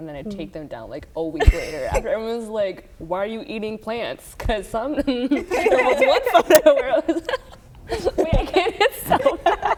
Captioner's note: laughter